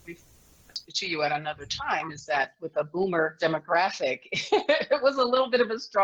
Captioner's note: laughs